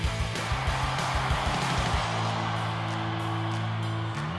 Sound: cheering

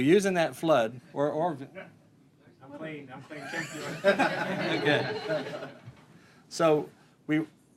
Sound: laughter

